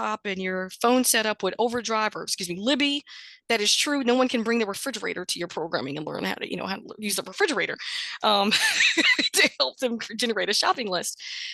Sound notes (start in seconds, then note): 8.4 chuckles